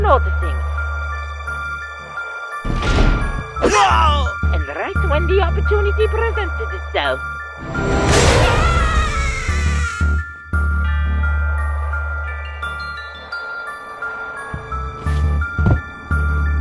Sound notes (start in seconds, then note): 2.6 door Slam; 7.4 jumpscare followed by gunshot